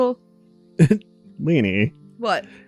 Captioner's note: chuckles